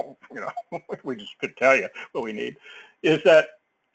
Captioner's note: laugh